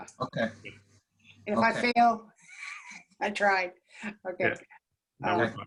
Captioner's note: laughter